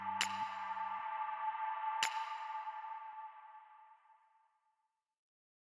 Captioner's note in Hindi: तालियाँ; ताली